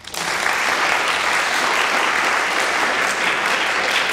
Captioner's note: audience applause